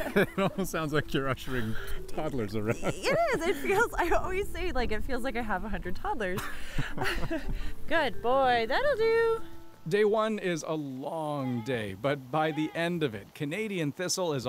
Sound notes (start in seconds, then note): 2.4 laughter